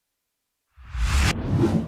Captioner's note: air whooshing